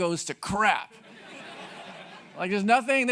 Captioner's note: audience laughing